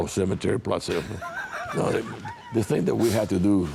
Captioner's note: laughing